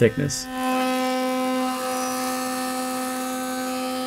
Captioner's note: machine whirs